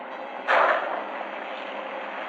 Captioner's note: gunshot